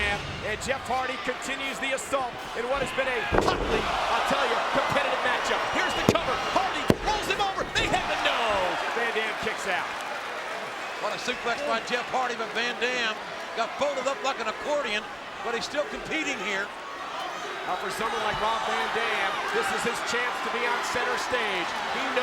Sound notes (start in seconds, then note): 3.8 mat thumping; 6.2 mat slapping; 9.4 hands clapping